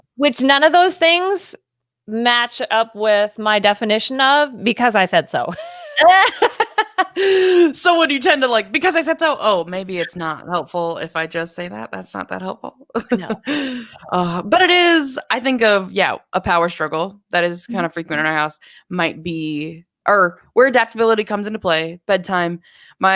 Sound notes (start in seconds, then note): 5.6 laughs